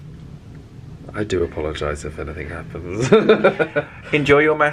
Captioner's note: laughs